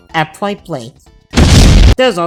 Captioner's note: explosion